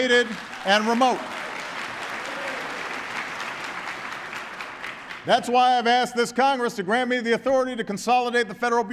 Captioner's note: applause